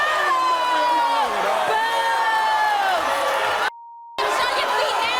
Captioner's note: audience cheering and booing